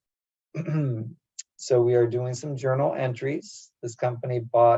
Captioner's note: cough